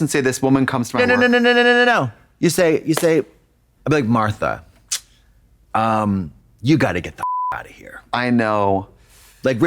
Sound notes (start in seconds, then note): 7.2 beep